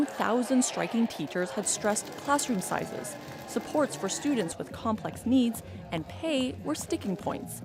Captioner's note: chanting